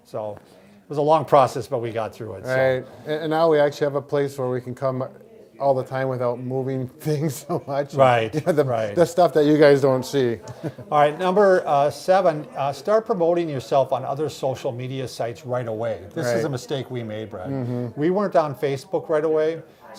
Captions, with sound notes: So it was a long process but we got through it. - Right, and now we actually have a place where we can come all the time without moving things so much. (laughing) - Right, right. - The stuff that you guys don't see. - All right, number seven, start promoting yourself on other social media sites right away. This is a mistake we made, Brad. We weren't on Facebook right away.